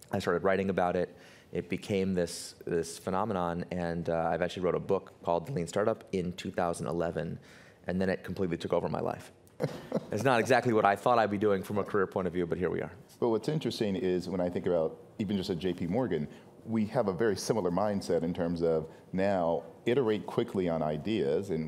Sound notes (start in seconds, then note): 9.6 laughs